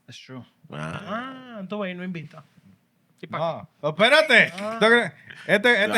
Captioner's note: speaking Spanish